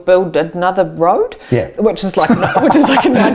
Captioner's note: laughing